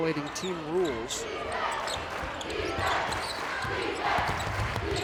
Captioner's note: crowd chants